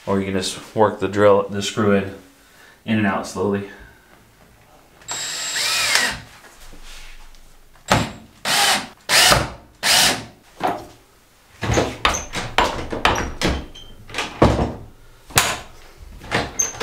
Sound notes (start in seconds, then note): 5.0 drill whirring; 11.6 door banging on the lock